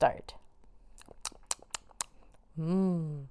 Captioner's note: nibbles